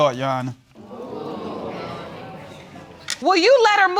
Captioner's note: audience murmuring